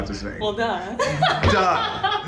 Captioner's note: laughing